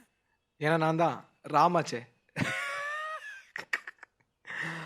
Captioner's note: chuckles